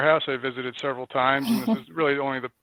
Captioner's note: laughs